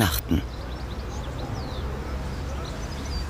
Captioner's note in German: Vogelzwitschern